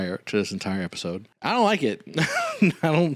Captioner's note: laughs